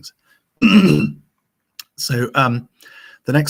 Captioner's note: clears throat